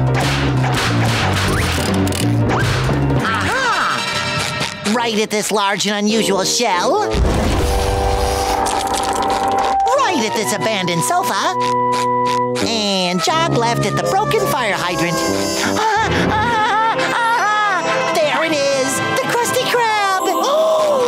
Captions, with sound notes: A-ha! Right at this large and unusual shell. Right at this abandoned sofa, and sharp left at the broken fire hydrant. [laughing] There it is, the Krusty Krab, oh!